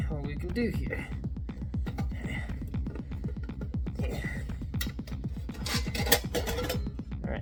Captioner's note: the sounds of a struggle